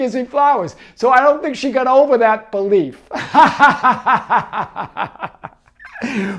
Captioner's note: laughing